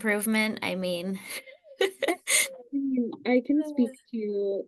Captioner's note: laughs